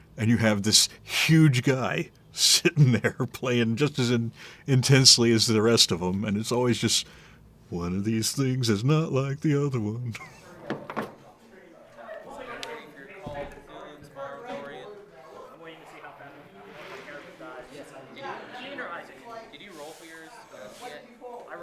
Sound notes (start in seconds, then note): 9.2 chuckles; 11.1 people chatting; 11.1 soft clattering; 18.0 people chatting